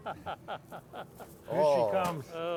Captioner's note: laughs